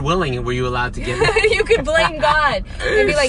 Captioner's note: laughs